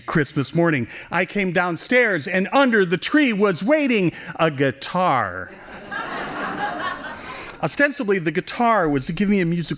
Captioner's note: laughing